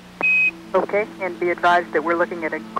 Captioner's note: beeps